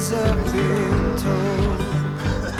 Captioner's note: coughs